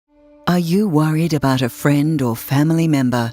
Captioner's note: voiceover